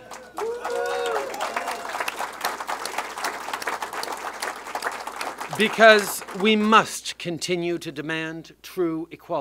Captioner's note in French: Applaudissements